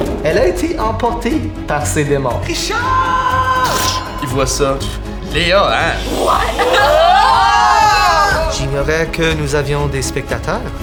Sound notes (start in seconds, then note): 3.6 blade strike